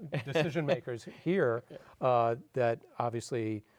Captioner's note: laughing